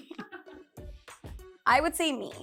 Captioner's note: producer laughing